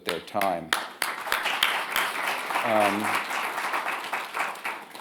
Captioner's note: audience applauding